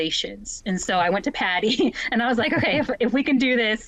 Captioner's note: chuckles